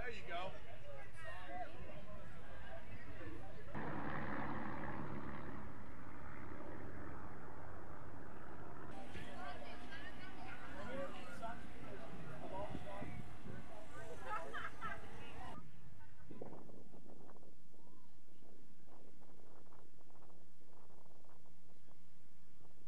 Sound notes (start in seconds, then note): 4.0 planes flying; 8.8 crowd chattering